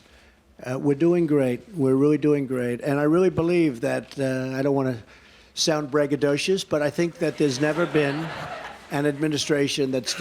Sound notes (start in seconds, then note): 7.2 laughter